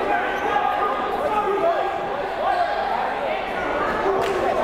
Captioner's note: crowd murmuring